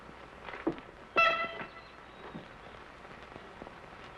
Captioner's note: horn blows